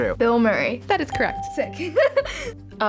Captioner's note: laughing